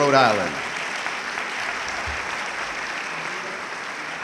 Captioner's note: audience clapping